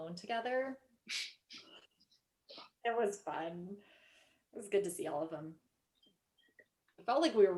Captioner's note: laughing